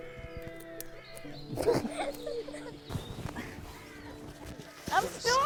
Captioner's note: gentle orchestral music continues; both laughing